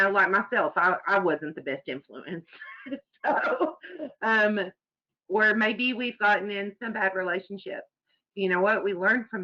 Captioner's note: chuckles